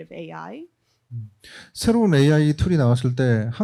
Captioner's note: speaking korean